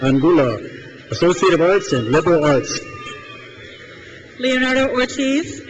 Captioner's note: crowd cheers